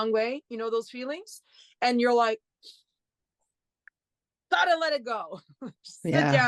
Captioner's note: breathes in then out